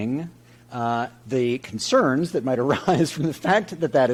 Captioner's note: chuckling